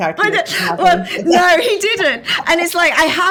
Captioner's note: laughing